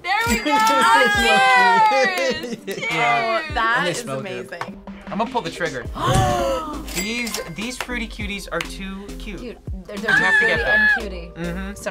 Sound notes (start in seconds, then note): 0.4 laughs; 6.0 both gasp